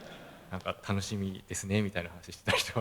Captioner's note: laugh